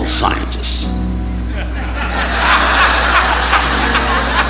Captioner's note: audience laughing